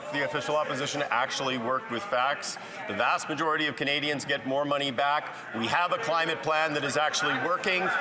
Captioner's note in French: voix de l'interprète